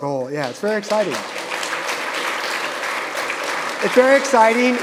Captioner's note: audience applauding